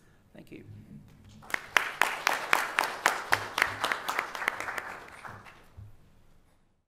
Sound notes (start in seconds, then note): 1.4 applause